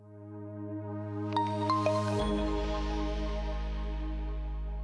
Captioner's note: logo chiming